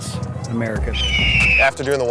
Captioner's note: eagle screeches